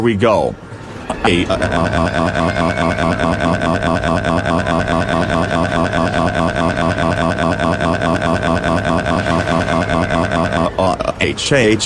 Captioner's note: Boris screams